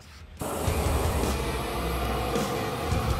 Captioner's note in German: Flammensurren; intensive Rockmusik